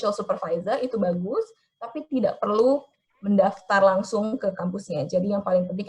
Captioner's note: speaking in foreign language